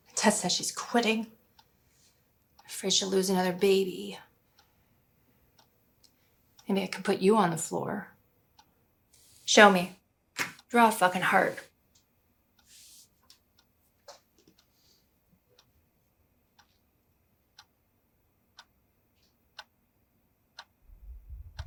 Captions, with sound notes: Tess says she's quitting. I afraid she'll lose another baby. Maybe I can put you on the floor. Show me. Draw a fucking heart. (clock ticking)